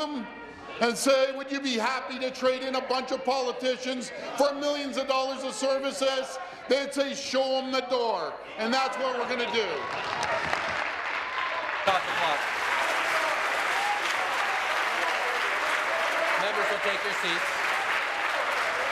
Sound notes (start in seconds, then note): 13.7 applause; 17.6 continued applause